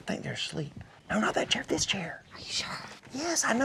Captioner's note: whispering